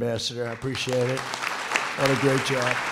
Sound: applause

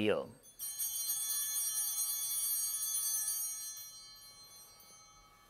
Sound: chimes ringing

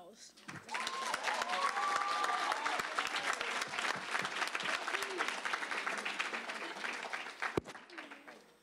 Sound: applause

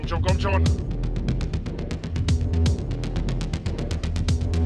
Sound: German

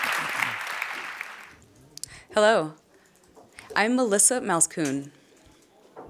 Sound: applause

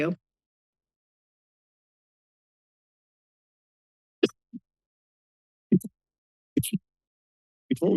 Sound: silence

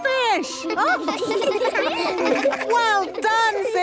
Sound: children laughing

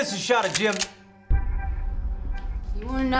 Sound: gun cocks

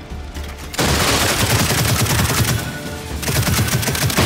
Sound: gunfire

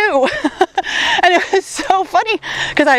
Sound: laughs

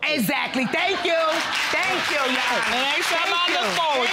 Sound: audience applauding

